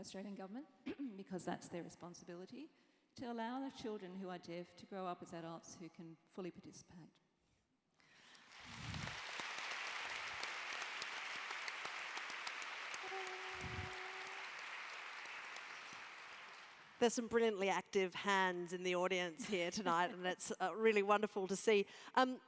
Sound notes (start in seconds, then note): 8.1 applause